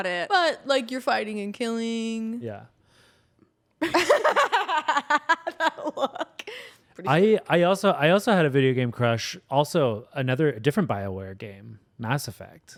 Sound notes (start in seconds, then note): 3.9 everyone laughs